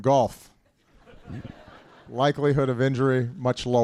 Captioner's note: laughter